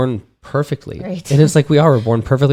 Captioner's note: chuckles